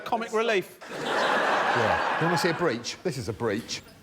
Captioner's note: laughter